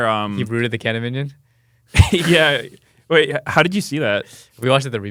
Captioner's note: laughs